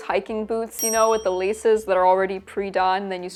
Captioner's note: bell dings